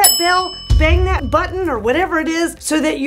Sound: bell ringing

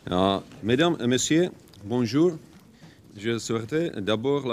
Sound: speaking in French

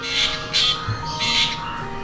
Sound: black drongo call

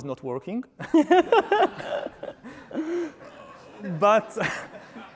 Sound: laughing

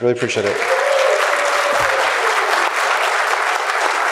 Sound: cheers

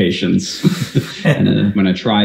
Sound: both laugh

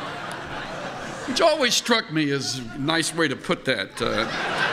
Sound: laughter

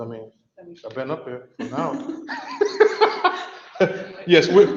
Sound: laughs

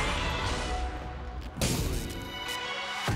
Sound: bump!

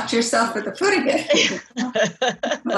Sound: laughs

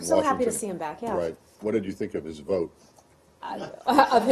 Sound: laughter

